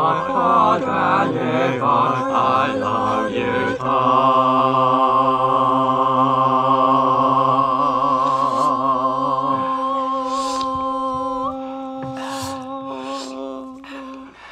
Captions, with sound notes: oh Donny boy I love you so (slurp) (gulp) ah. (slurp) (gulp) ah. (slurp) ah.